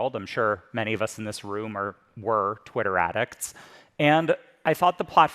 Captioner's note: none